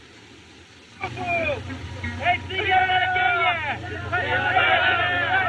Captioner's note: airplane Approaching; shouting